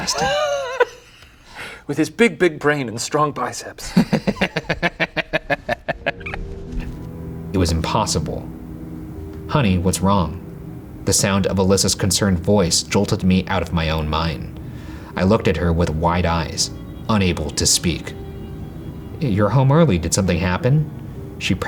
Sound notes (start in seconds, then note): 0.0 laughs; 3.8 laughing